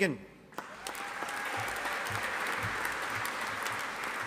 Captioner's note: audience applauding